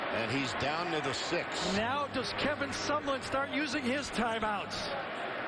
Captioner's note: crowd noise